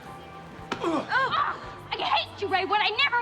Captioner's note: exclaims; both groan